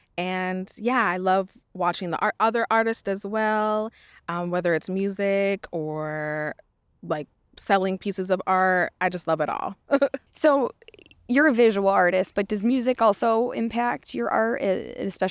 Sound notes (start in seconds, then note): 9.7 laughs